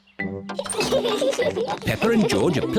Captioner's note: all giggle